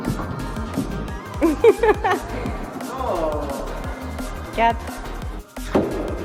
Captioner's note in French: rires